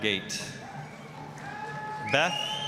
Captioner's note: applause, cheering